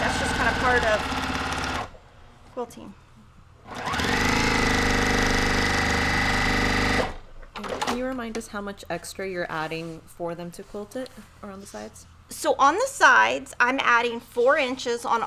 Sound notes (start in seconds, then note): 0.0 sewing machine whirrs; 3.7 sewing machine picking up speed